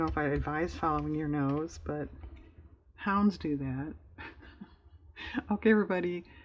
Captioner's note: laughs